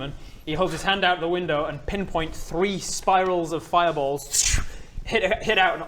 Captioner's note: scchrrmm